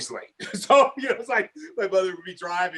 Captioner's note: laughing